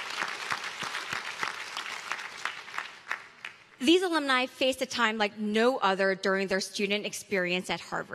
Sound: applause

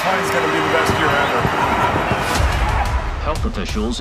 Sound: crowd

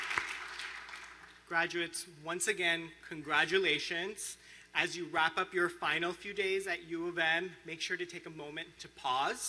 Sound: applause

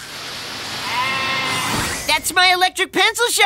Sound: bleating

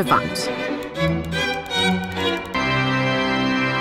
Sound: slides click; dramatic organ music

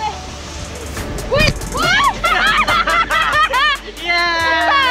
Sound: excited screaming; laughing; laughs

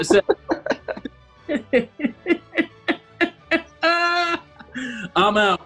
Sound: laughter

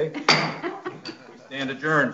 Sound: gavel hitting

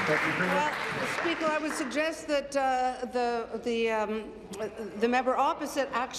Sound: applause

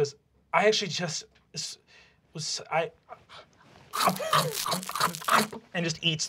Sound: chewing

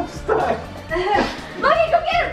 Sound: laughs

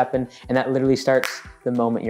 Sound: snapping fingers

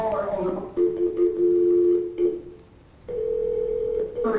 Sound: dial tone; phone ringing

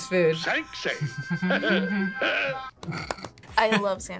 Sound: both laugh; laughs

